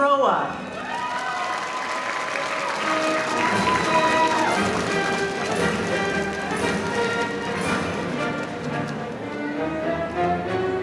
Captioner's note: applause